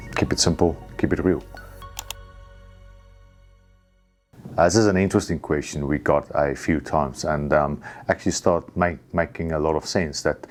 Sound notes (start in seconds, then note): 1.9 mouse clicks